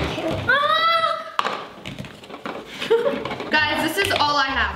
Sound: exclaiming

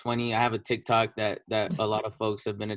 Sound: giggles

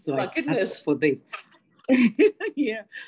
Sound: laughing

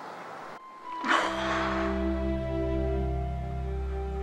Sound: sighing

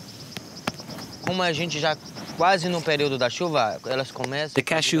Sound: Brazilian spoken audio

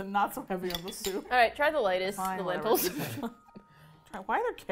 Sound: laughing

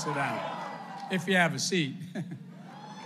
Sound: applause; laughs

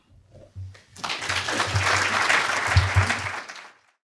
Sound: crowd applauds

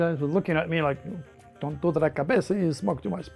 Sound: speaking in foreign language

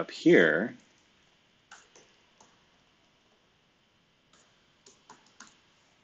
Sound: computer keyboard clicking

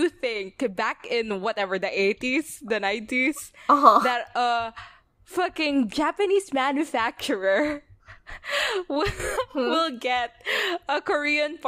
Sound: laughing

